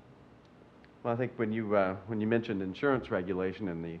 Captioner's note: male Voice